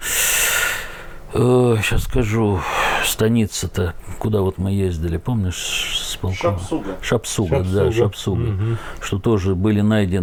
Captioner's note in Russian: вздыхает